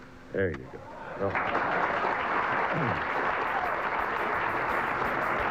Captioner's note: audience claps